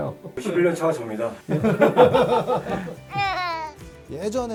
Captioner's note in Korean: 웃음